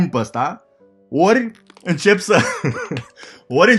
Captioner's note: laughing